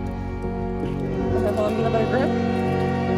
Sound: train horn

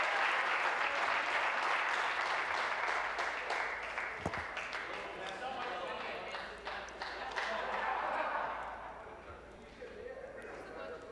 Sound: applause

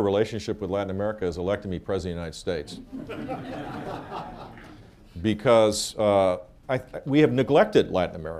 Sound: laughter

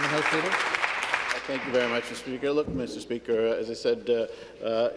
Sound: applause

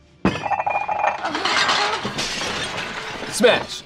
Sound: plates clattering

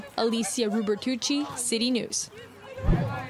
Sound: yelling

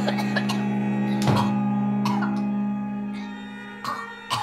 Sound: coughing

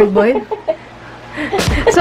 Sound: laughs

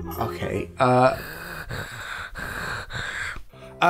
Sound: heavy Chrustmasy breathing

